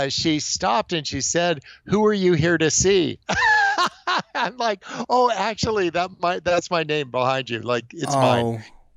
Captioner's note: laughs